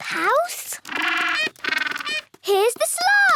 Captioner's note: honking